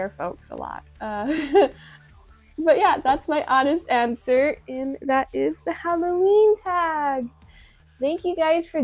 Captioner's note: small laugh